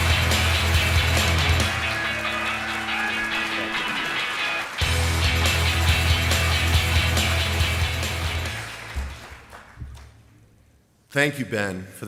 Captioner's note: applause